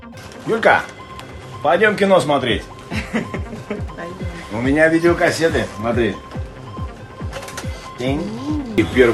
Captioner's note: laughter